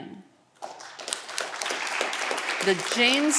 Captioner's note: audience clapping